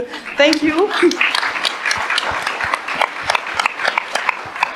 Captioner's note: audience applauds